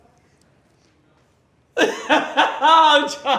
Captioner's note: Tan laughs